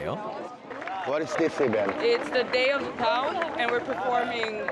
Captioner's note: clap